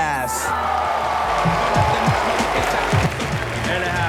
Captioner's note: cheering